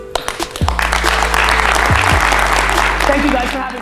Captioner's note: crowd applause